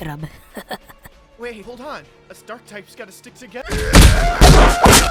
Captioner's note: scared